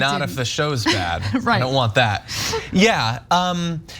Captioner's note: laugh